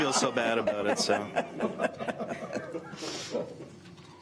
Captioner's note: laughing